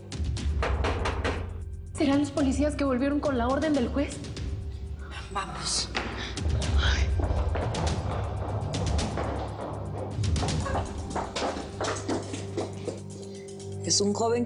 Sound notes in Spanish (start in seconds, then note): 0.5 Toques en la puerta; 7.5 Ruido de pasos apresurados